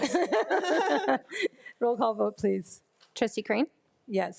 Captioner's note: group laughs